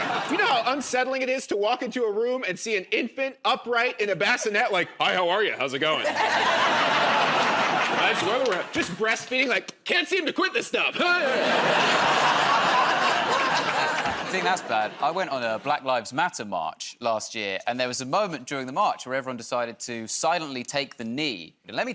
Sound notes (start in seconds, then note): 6.0 laughter